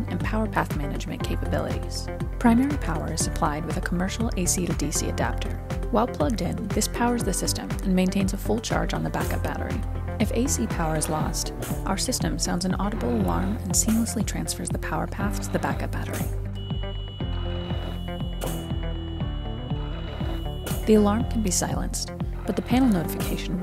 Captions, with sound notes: and power path management capabilities. Primary power is supplied with a commercial AC-to-DC adapter. While plugged in, this powers the system and maintains a full charge on the backup battery. If AC power is lost, our system sends an audible alarm and seamlessly transfers the power path to the backup battery. [ALARM] The alarm can be silenced, but the panel notification